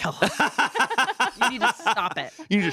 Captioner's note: laughs